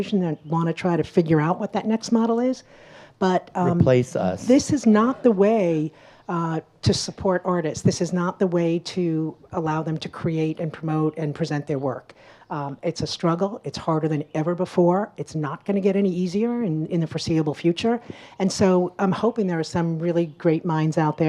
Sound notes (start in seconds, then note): none